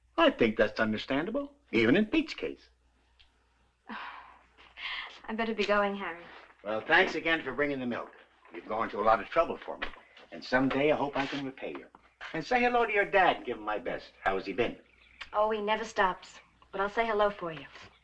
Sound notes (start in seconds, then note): 3.9 sighs